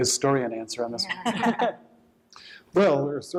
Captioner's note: laughter